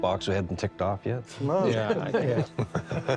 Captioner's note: chuckling